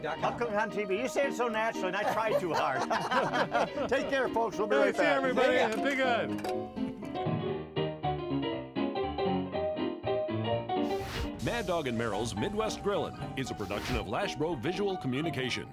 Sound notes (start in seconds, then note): 2.0 everyone laughing; 10.8 smoking sound